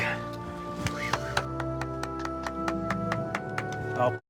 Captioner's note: clapping